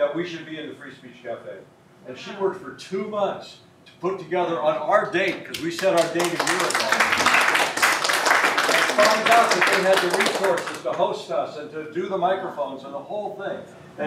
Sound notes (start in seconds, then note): 5.5 applause